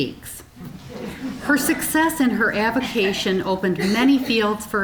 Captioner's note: audience chuckling